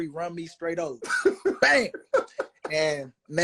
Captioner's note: laughing